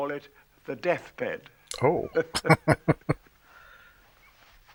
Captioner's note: chuckling